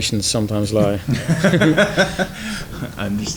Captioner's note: laughs